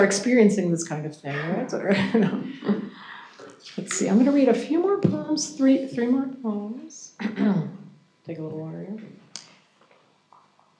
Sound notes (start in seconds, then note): 1.3 chuckles